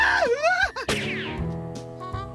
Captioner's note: screaming